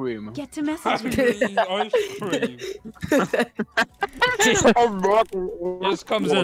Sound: laughter and mockery

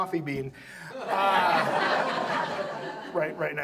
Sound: audience laughs

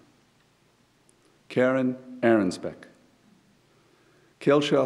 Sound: none

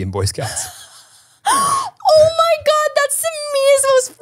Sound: laughs

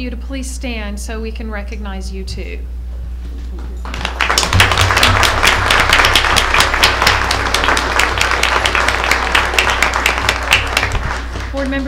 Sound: applause

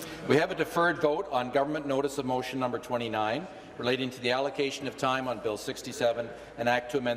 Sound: conversation din

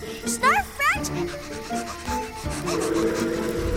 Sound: panting

